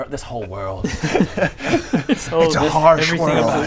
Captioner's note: laughs in existential crisis